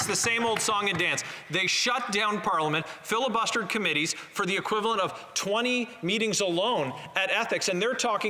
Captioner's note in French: voix de l'interprète